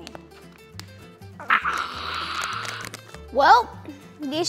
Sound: breathes out loudly

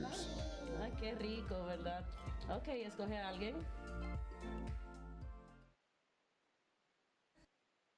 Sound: �speaking spanish�

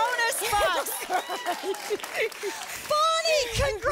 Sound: laughs

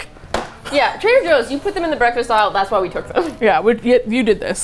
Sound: laughs

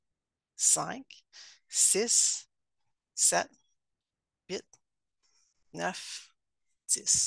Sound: counting in French

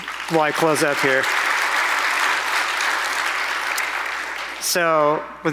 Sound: applause

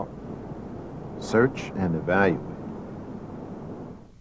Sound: voiceover

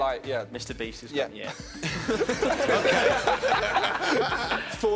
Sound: laughing

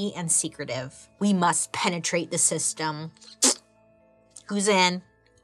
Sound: blows raspberry

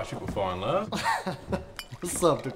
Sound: chuckling

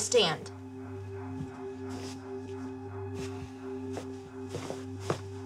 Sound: footsteps tapping

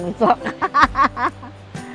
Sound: laughs

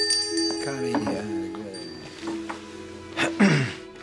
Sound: bell Rings; clears Throat

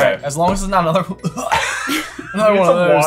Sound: coughs; laughing

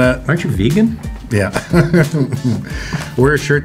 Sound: laughs

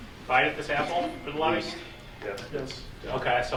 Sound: faintly speaking

